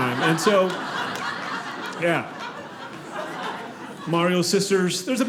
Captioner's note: audience laughing